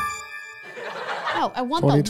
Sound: trembling music; crowd laughing

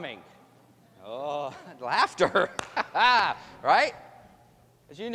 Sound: laughs

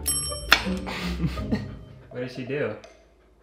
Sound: bell dinging; man laughing

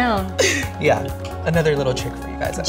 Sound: laughing

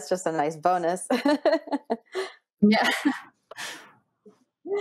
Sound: laughs

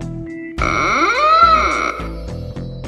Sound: door creaking

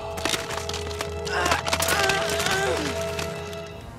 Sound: grunting

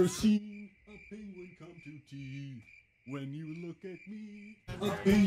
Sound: crickets, quiet

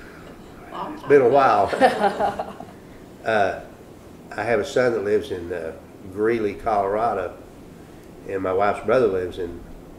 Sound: laughter

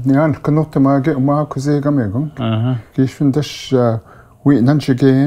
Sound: speaking foreign language

